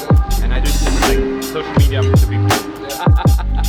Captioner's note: chatters; laughs